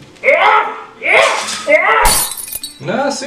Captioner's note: lamp breaking sfx